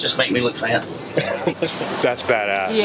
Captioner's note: laughter